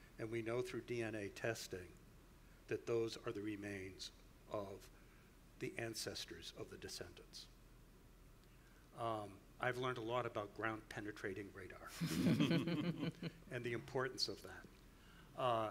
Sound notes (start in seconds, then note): 12.0 group laughs